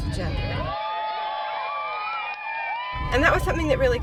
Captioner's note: crowd cheering